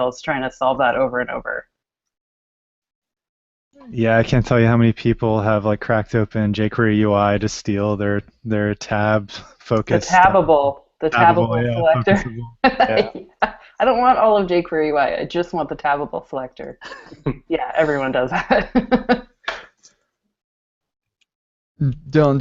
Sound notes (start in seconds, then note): 12.7 laughter; 17.8 laughs; 17.9 laughter